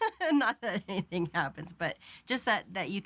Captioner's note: laughing